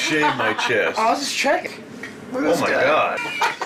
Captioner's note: laughing